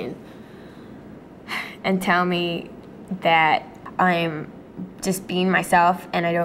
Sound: sighs

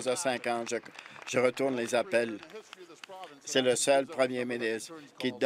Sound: applause

